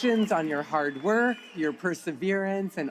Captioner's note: applause